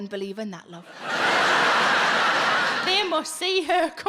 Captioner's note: audience laughs